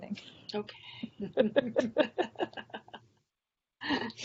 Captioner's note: both laughing